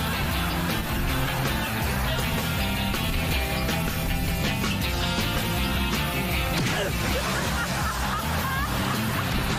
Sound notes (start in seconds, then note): 0.4 laughing; 6.6 grunts